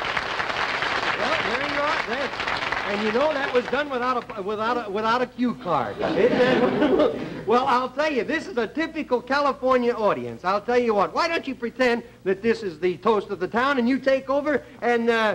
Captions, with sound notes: And you know, that was done without a cue card. [audience laughter] Well, I'll tell you, this is a typical California audience. I'll tell you what? Why don't you pretend that this is the Toast of the Town, and you take over, and make out like it's your own show right now.